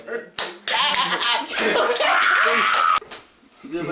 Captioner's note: claps; screams of... celebration?